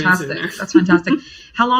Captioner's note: laughs